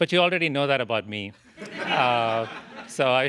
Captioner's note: laughter